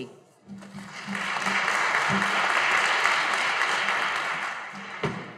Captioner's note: audience applauding